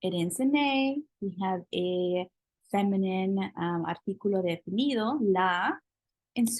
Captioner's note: spanish